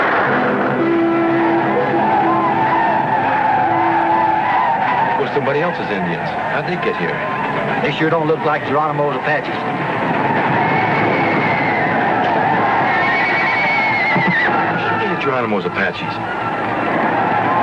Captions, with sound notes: (gunfire blasts) (tribe yelling) - They're somebody else's Indians. How'd they get here? - They sure don't look like Geronimo's Apaches. (tribe yelling) (horses galloping) (horses whinnying) - They ain't Geronimo's Apaches.